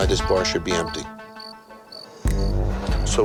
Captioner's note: crickets chirping; dramatic music